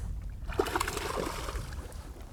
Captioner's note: splash